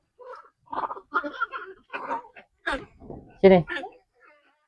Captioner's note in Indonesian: tertawa